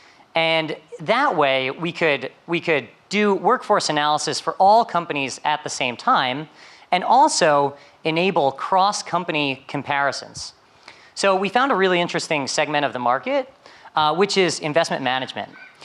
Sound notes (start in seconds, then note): none